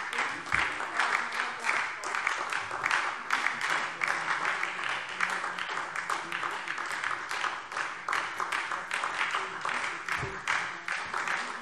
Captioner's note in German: Anhaltender Beifall SPD - Beifall DIE LINKE